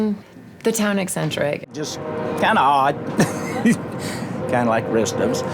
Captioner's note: laughs